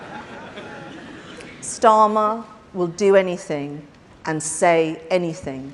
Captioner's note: laughter